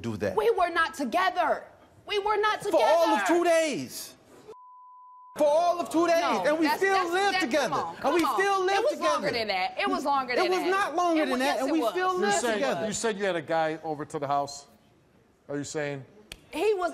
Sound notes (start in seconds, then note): 4.5 beep